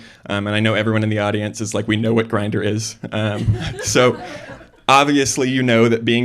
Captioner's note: chuckling